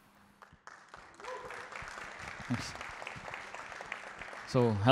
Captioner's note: applause